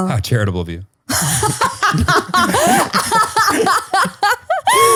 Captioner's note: all laughs